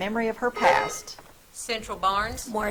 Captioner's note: buzzer trills